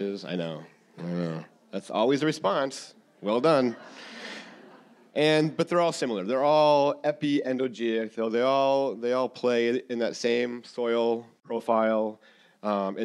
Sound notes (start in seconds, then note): 3.4 audience laughing